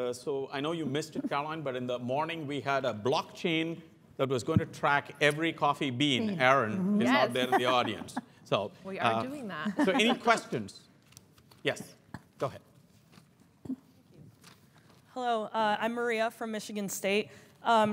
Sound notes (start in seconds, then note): 7.0 laugh